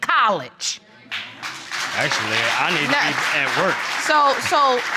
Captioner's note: audience applauding